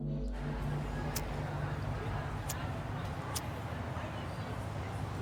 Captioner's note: tense music; lighter clicking